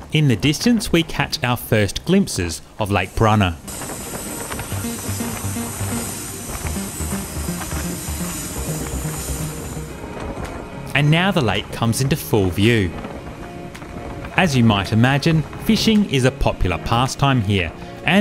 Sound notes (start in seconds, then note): 5.7 water splashing